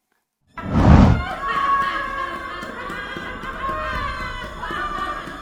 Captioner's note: applause, creepy music and giggles